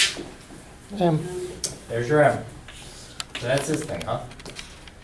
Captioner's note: voiceover